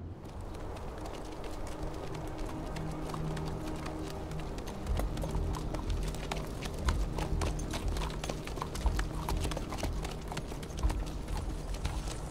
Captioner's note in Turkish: Nal sesleri